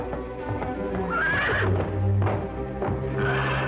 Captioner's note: whinnying